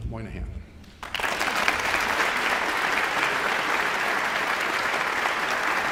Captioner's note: audience applauding